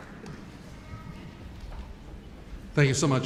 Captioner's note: none